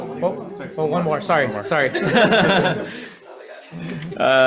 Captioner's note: laughs